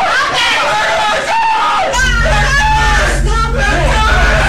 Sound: screaming; screaming

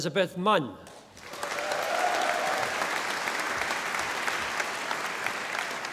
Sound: audience applauding

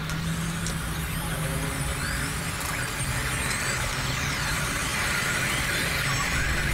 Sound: radio static getting much louder

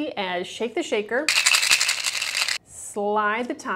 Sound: shaking Sound

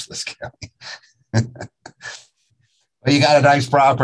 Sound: laughs

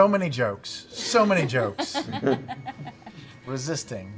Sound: laughing

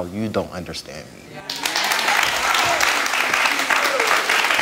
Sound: audience applauds

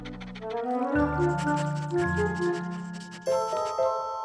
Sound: sniffing

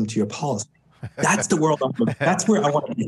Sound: laughs

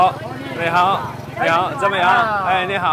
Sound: Mandarin

